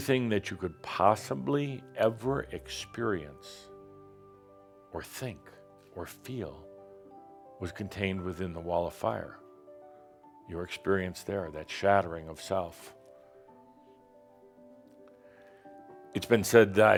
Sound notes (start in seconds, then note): none